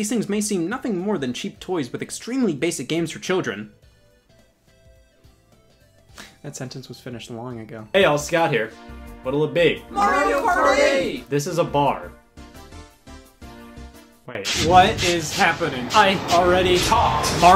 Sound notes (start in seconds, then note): 9.4 crowd